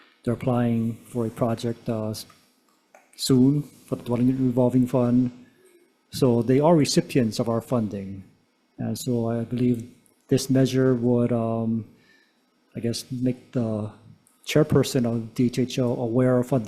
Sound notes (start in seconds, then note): none